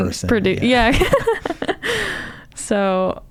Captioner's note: laughs